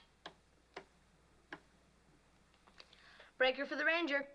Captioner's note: static Crackling; clicking Dial